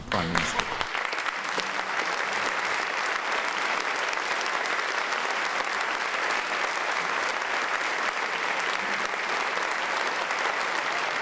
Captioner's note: applause